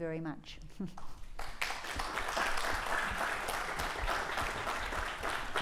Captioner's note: applause